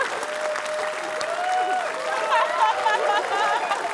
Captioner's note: cheering